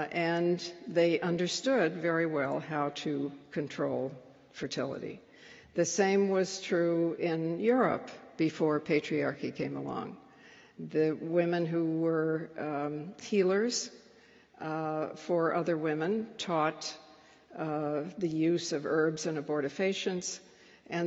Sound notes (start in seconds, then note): none